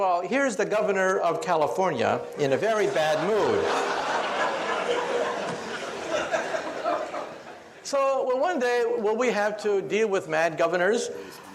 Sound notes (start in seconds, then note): 2.7 audience laughs